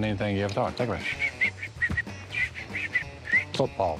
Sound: whistling

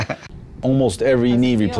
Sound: laugh

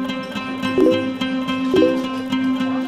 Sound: phone notification sound

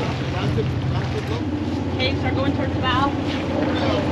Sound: boat engine running

